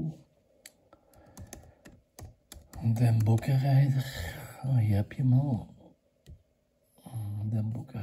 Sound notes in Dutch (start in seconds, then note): 2.4 tik geluid